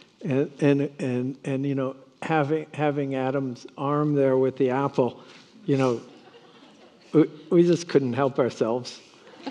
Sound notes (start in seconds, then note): 5.7 attendees laughing